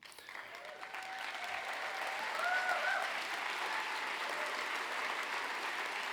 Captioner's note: applause